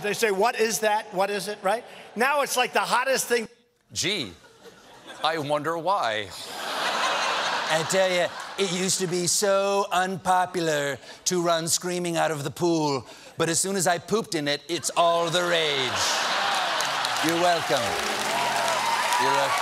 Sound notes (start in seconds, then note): 6.3 laughter; 14.8 laughter; 15.8 applause